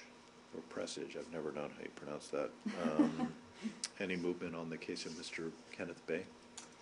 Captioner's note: laughter